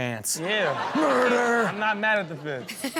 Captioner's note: audience laughs